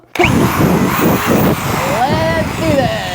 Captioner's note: machine whirring